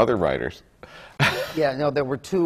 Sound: laughs

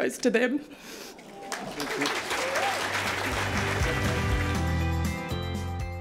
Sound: applause and music

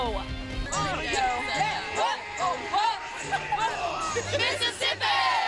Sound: team cheering

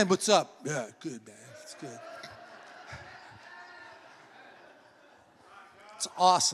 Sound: congregation laughs

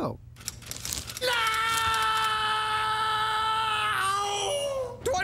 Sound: Duckman screaming

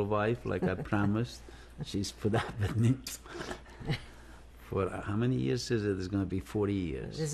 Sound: laughs

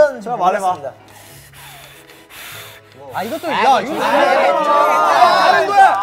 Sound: blowing up a tube

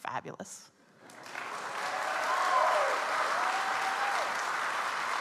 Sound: audience applauds

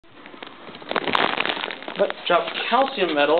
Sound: crinkling noise

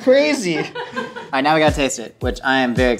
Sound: laughing

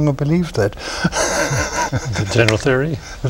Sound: laughter

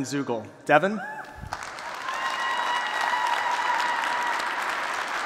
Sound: applause

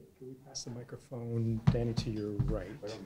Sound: voiceover

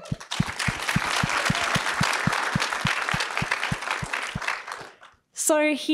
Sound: applause

